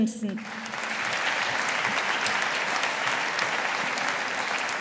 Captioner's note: audience applauding